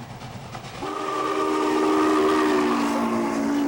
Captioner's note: steam whistle